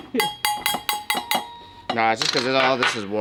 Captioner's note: metal clanking